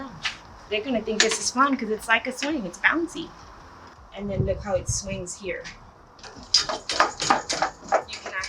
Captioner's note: rattling noise